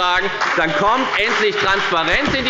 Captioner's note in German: Beifall bei der FDP und bei Abgeordneten der SPD